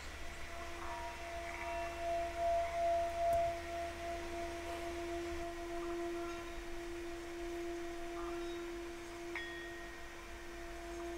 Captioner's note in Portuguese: vibração de sino